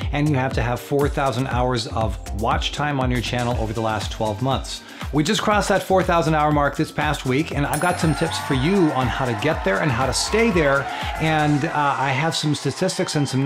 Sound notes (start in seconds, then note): 7.7 cheering